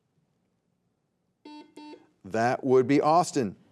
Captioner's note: buzzer beeping